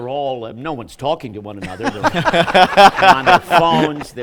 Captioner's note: laughter